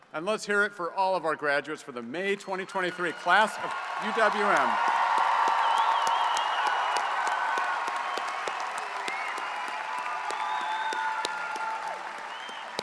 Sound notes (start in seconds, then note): 4.6 audience cheers and applauds